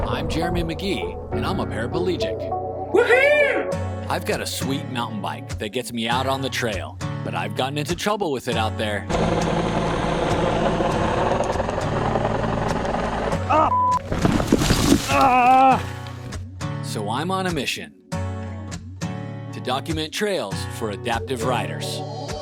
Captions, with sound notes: I'm Jeremy McGhee and I'm a parapalegic. Woohoo! I've got a sweet mountain bike that gets me out on the trail, but I've gotten into trouble with it out there. (helicopter humming) Ah (beep)! Ah! So, I'm on a mission to document trails for adaptive riders.